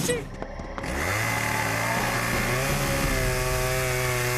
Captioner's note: chain saw revving